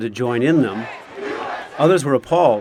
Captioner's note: crowd celebration